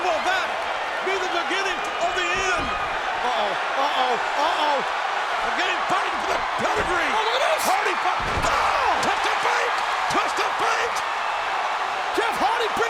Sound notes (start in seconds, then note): 8.1 bodies thud; 11.8 audience cheering and clapping